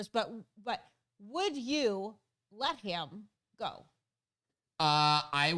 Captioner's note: stutters